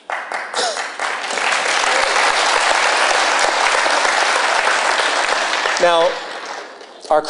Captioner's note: applause